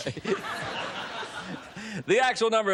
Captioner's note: laughter